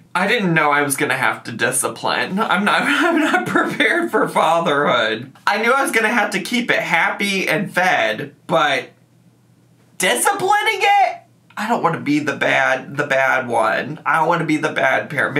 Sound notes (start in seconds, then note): 2.7 chuckles